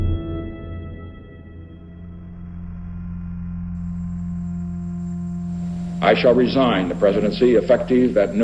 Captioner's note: soundbite of archived recording